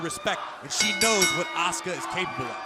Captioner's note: bell ringing